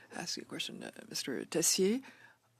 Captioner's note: speaking French